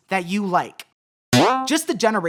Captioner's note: boing